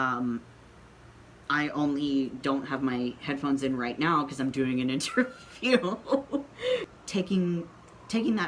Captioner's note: laughing